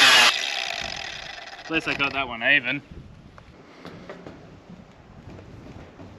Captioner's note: grinder whirring